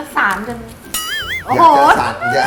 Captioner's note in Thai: เสียงเอฟเฟกต์